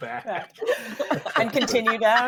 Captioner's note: all laughing